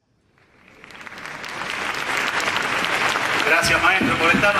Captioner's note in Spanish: aplausos